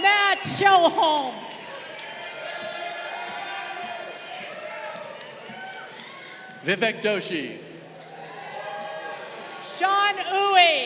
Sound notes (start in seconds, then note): 2.0 crowd cheering; 7.9 crowd cheering